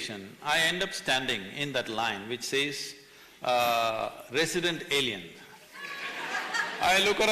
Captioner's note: laughter